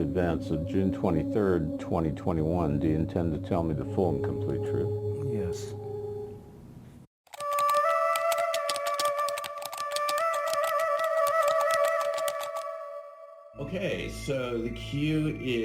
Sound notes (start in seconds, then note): 7.2 keys typing; 7.9 eerie music